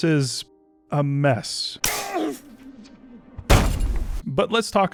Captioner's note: man grunting, slamming into the ground